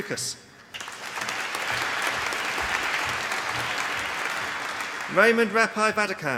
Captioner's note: applause